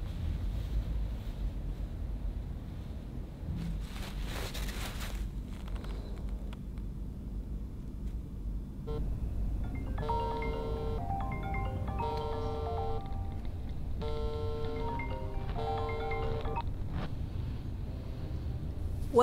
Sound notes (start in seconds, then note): 9.6 alarm rings